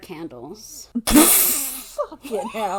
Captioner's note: laughs